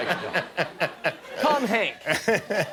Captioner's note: laughter